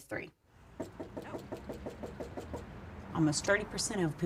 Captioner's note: knocks on door